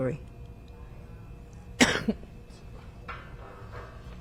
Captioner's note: coughing